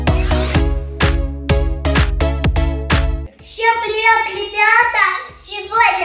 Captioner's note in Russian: none